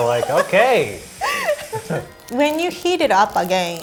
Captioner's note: laughing